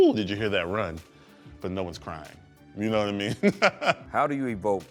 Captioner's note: laughs